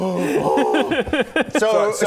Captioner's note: enthusiastic noises